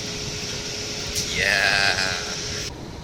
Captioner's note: sounds of agreeing